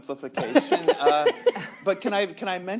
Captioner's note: all chuckling